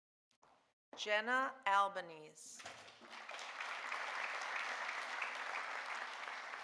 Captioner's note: audience applauding